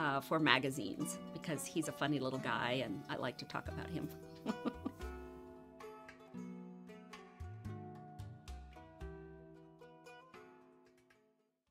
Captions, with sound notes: for magazines because he's a funny little guy and I like to talk about him (laughs). (gentle sitar music)